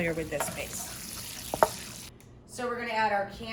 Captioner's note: pan sizzling